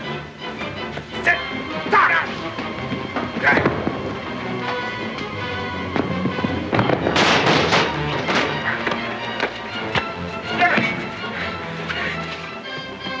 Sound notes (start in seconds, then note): 0.3 suspenseful music; 1.8 grunts; 3.5 thump; 4.3 suspenseful music; 6.7 crash; 8.2 sounds of scuffling; 8.2 suspenseful music